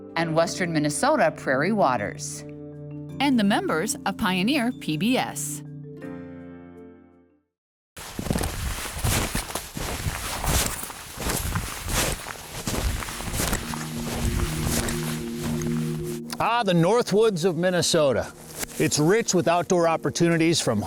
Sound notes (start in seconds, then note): 8.0 snow shuffling; 14.1 airy music